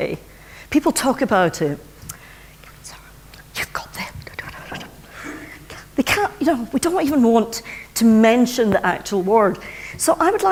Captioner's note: whispers